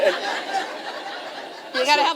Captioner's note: laughter